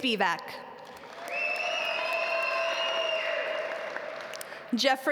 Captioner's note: audience cheer and applaud